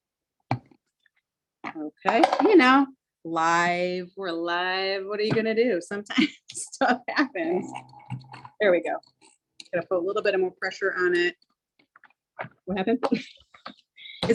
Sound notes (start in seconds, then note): 6.6 laughs; 13.6 laughs